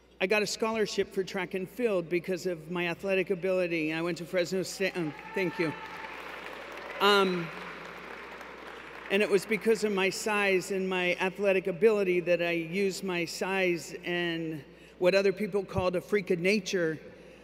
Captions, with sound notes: I got a scholarship for Track and Field because of my athletic ability, and I went to Fresno State-- Oh, thank you. [Applause] Um, and it was because of my size and my athletic ability, that I used my size and, what other people called "a freak of nature"